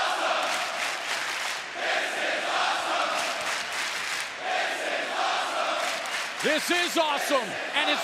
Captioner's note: fans chanting